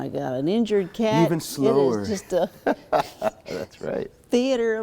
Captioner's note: laughter